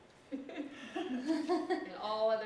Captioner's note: laughter